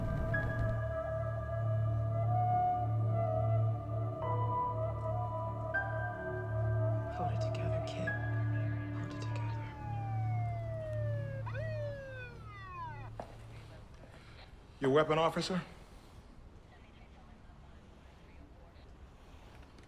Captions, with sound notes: - Hold it together, Kit, hold it together. (police siren wailing) - Your weapon, officer?